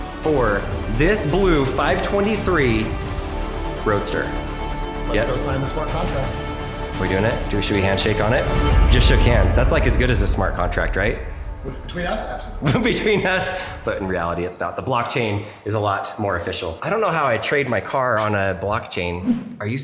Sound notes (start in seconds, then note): 0.0 inspirational music; 12.6 laughs